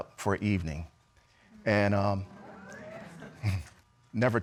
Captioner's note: audience exclaims